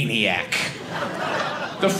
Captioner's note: audience laughing